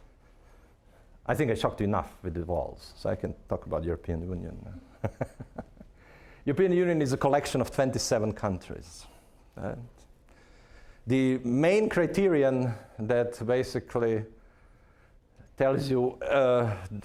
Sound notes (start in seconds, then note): 4.8 laughing